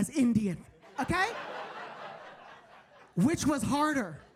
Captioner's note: audience laughing